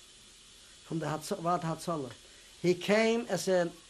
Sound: non-english

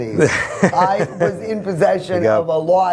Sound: laughing

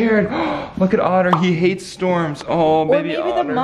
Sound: gasping

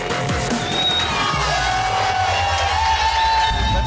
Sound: cheers

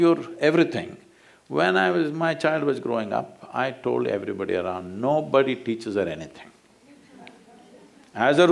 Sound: few laugh

